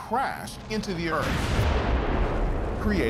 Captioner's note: loud explosion